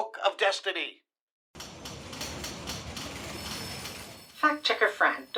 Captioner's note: busy office sounds